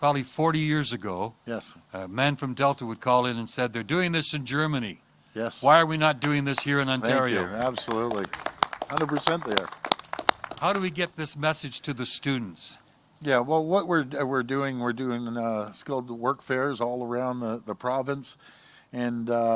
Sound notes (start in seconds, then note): 12.5 applause